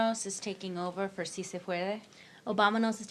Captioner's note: speaks in foreign language